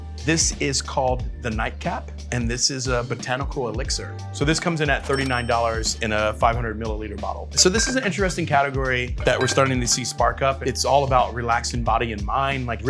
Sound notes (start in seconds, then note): 5.0 register bell rings; 9.2 bottles clanging